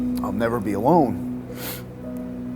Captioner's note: sniffling; soft piano music playing